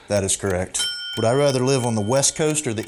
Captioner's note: ding